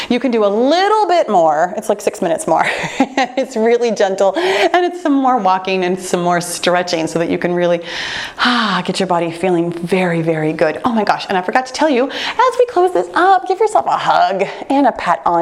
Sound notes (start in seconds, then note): 2.6 laughs; 8.2 sighs